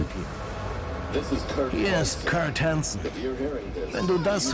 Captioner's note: in-game audio